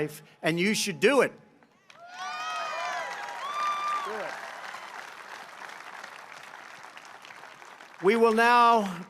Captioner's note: applause